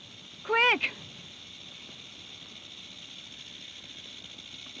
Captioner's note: snake rattles